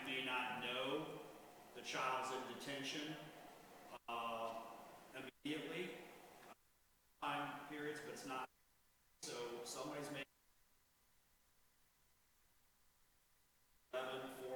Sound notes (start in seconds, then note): 5.3 audio cutting in and out